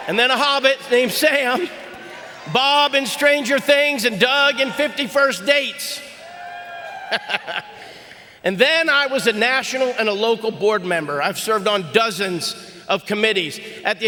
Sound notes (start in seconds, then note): 6.4 audience cheering; 7.2 Sean chuckles